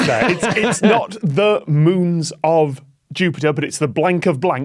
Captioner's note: laughs heartily